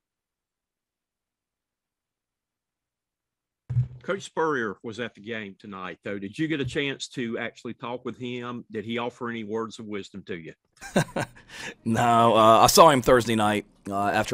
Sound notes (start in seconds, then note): 10.8 Shane laughs